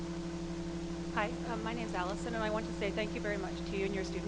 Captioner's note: voiceover